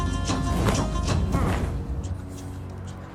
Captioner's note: napkin wooshing